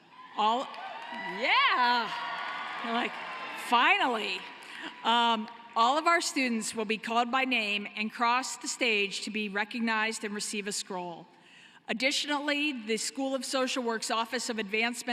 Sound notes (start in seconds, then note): 6.4 cheering and applause